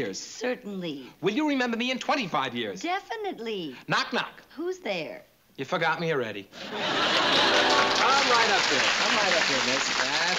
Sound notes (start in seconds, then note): 6.8 applause